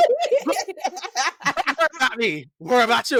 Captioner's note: laughter